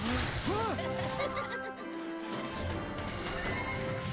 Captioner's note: laughter